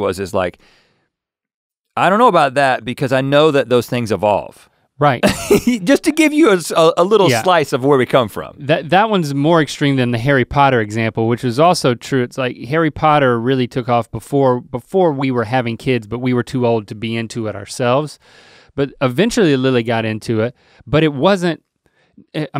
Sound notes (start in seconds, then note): 5.2 laughs